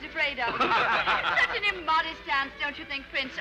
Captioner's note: all laughing